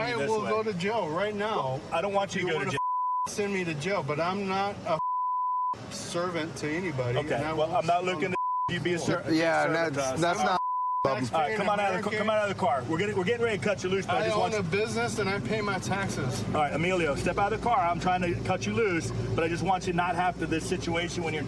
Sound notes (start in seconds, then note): 10.3 chatter